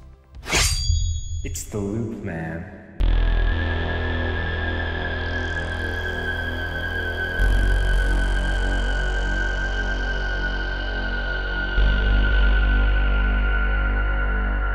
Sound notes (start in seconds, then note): 0.5 slashing; 3.5 haunting music